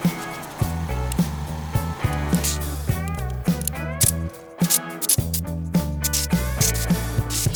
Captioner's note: plastic crinkling; upbeat music